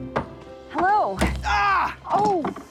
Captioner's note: shouting